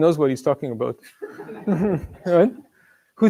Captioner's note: laughter